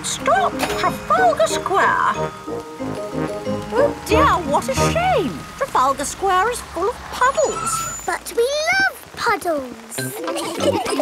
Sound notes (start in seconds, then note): 7.6 tires screeching